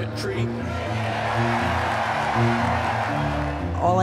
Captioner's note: crowd cheering